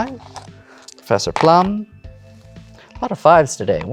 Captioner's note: dice rattle